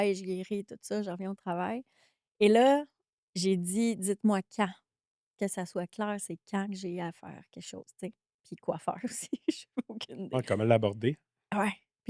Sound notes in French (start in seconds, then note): 9.3 rires